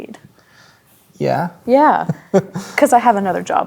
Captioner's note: chuckling